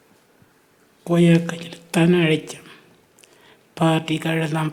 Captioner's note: speaking Anmatyerr